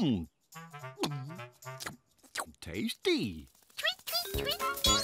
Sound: munching; gulp

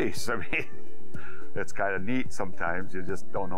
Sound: laughs

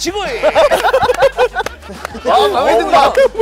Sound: laughing

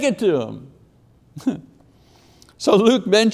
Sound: chuckling

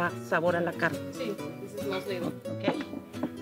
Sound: woman speaking Spanish in background; speaking Spanish

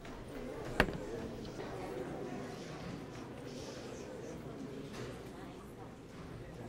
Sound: crowd murmuring

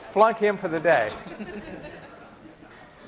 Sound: laughter

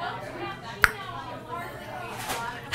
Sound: tongue pop

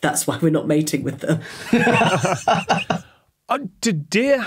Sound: laugh

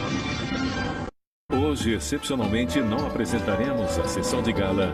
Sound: man speaking portuguese

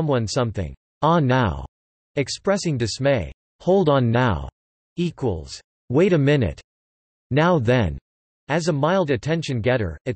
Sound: expressing dismay

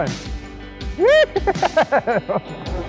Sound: yelling with excitiment

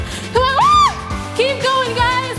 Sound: screams

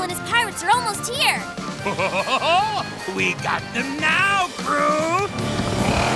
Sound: laughing

